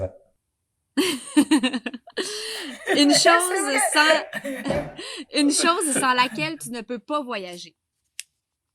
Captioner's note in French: rires